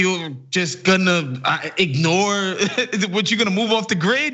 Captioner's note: laugh